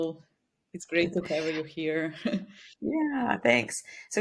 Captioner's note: chuckles